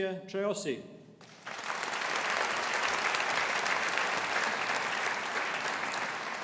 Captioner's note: audience applauding